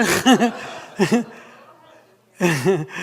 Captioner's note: laughter